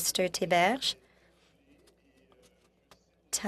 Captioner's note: speaking French